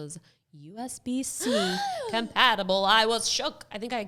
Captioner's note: gasping